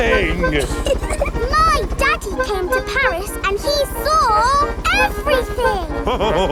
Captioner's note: chuckles; all laughing